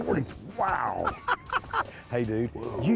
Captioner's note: laughter